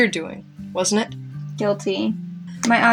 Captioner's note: none